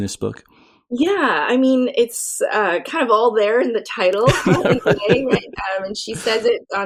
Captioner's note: laughter